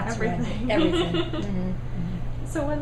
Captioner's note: laughing